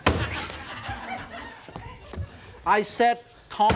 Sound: audience laughs

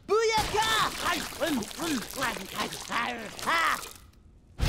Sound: chewing; belching

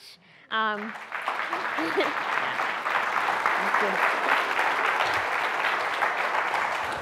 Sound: applause

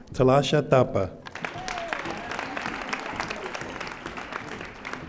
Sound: audience applauding

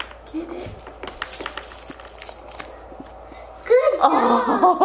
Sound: tape rips

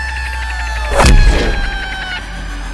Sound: banging

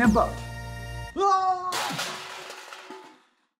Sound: screaming

